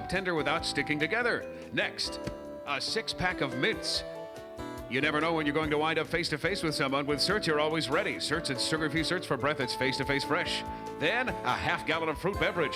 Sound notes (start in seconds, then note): none